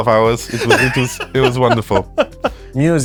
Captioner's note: laughs